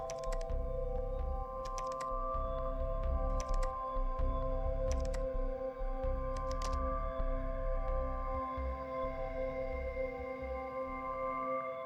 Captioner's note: keyboard clacking